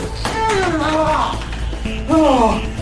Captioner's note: screams in pain